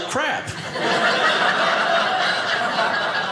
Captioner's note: audience laughing